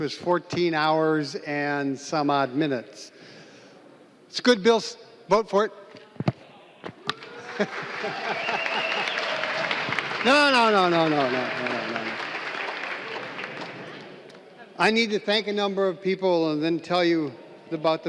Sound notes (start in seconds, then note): 12.9 applause